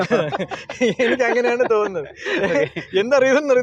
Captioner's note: laughing